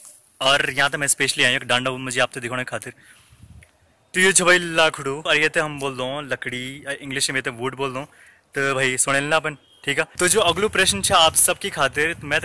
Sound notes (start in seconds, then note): 5.8 in Garhwali